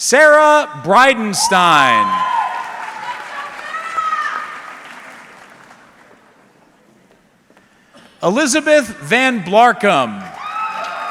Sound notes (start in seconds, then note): 1.4 audience cheering; 3.4 audience member shouting indistinctly; 10.0 audience clapping